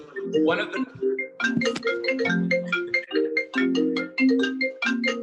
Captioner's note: phone ringing